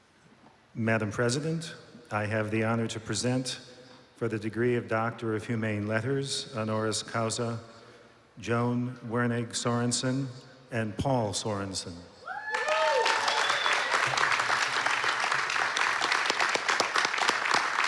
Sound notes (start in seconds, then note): 12.4 applause